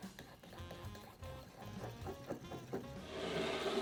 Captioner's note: whisking